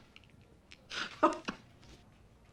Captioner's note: chuckling continues